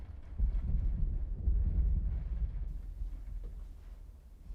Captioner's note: thunder rumbling